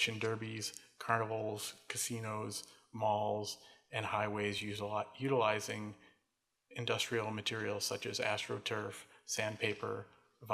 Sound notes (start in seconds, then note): none